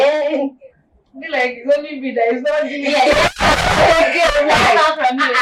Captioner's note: laughter